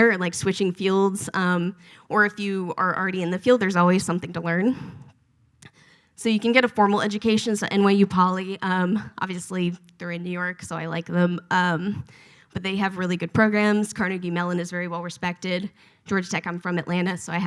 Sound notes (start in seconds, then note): none